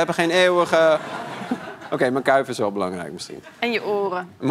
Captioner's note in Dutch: gelach